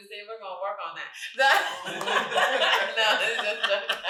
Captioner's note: laughing; all laughing